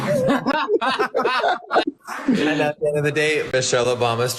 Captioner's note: group laughing